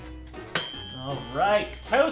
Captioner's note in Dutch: ding